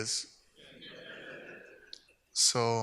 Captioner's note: audience laughs